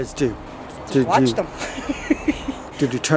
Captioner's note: laughs